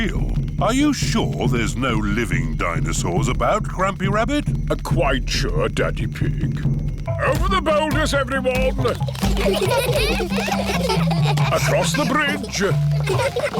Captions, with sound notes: Are you sure there's no living dinosaurs about, Grampy Rabbit? Quite sure, Daddy Pig. Over the boulders, everyone. (CHILDREN GIGGLING) Across the bridge.